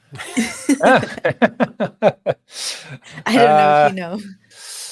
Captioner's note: all laughing